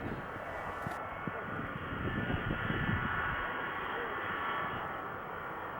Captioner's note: jet engine noise